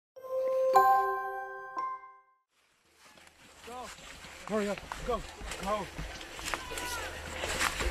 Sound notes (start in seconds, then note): 0.2 calm xylophone music; 3.7 deep Voice